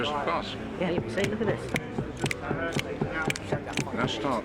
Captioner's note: tapping foot